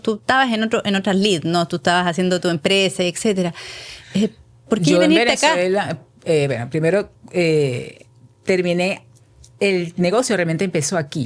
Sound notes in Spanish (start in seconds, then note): none